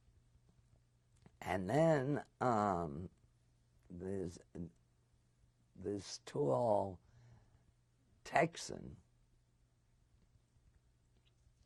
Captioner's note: pauses for 3 seconds